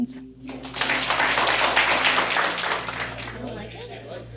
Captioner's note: applause